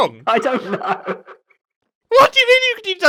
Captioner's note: laughs